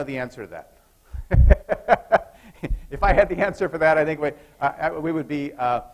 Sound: laughs

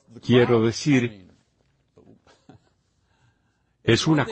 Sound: laughs

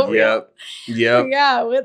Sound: laughing

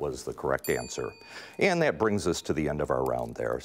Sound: ding

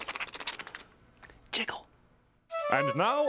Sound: whispering

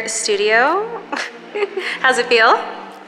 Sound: laughs

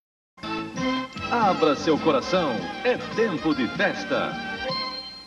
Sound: male announcer speaking Portuguese

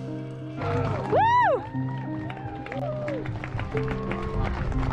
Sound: spectators cheering

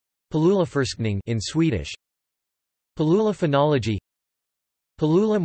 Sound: in Swedish

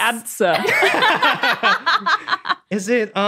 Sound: group laughing

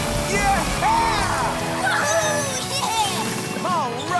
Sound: cheering

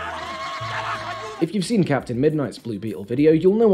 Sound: more screams

